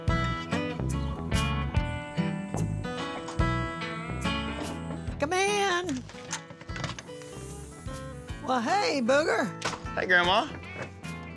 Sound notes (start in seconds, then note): 2.4 opens screen door, knocks; 5.8 door opens; 10.5 door closes